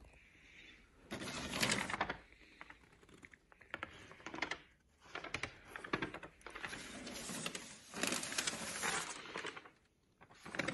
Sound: paper rustling

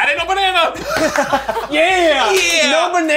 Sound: laughing

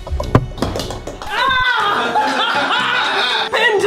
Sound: laughs

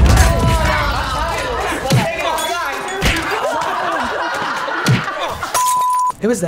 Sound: strikes smacking; transition beeping

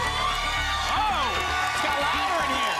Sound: applause and cheering

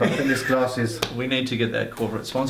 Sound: laughs

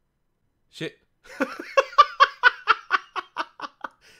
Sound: laughs

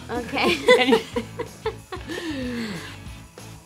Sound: laughing

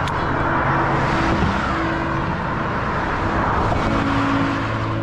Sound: engines roaring

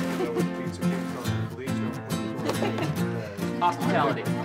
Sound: all laughing

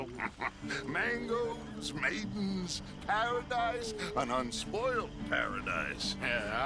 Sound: laughs

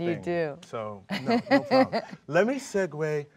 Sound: Laura laughs

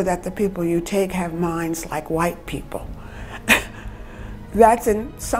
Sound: chuckles

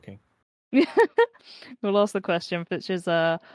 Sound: laughs

